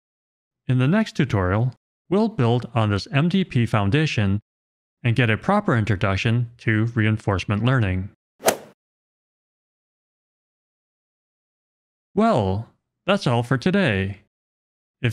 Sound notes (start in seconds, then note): 8.4 golf ball hit sound effect